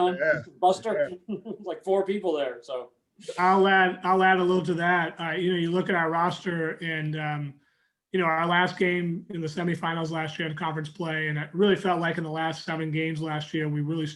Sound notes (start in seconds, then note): 0.9 chuckling